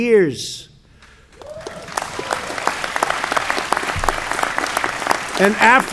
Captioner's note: applause